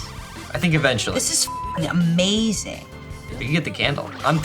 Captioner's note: beep